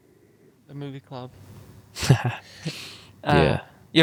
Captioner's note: laughs happily